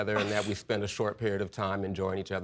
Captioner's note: scoffs